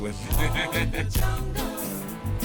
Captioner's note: laughs